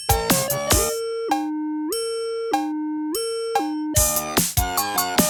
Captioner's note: siren wailing; upbeat music